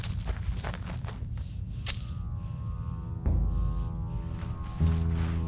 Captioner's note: Ellie breathes heavily